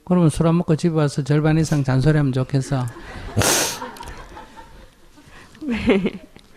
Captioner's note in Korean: 청중 웃음